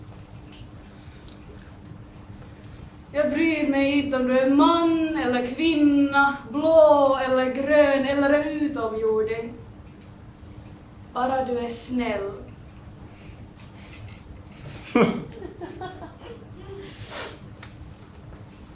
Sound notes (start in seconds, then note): 2.8 soft and condescending voice